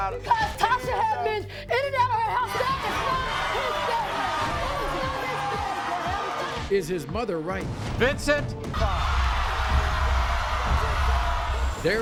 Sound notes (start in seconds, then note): 4.3 audience yelling; 8.7 audience cheering